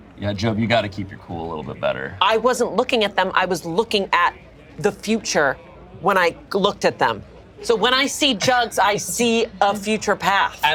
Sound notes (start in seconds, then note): none